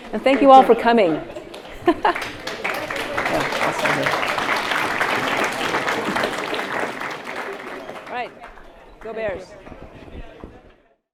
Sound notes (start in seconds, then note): 1.6 laughs; 4.4 audience clapping